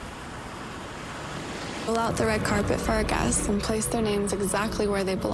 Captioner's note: waves crashing